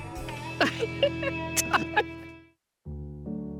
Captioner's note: laughing